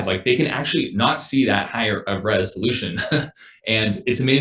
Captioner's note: laughs